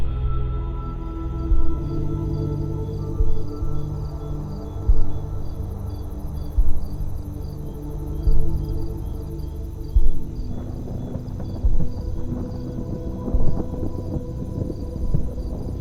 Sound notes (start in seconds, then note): 1.7 crickets chirp; 1.7 gentle electronic music; 9.9 thunder rumbles